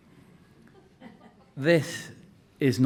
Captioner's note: audience laughing